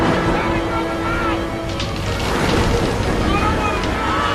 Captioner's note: explosion